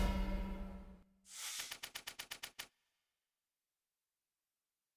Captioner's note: mysterious music; typewriter keys click